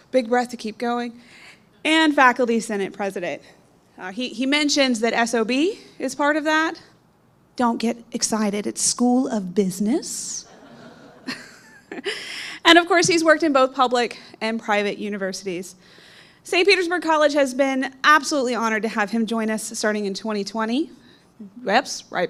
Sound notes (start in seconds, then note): 10.4 audience laughing